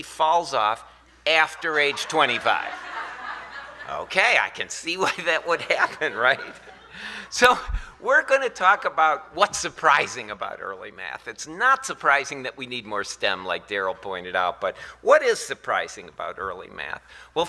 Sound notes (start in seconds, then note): 1.4 audience laughing; 6.7 laughing